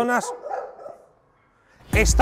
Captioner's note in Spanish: Ladridos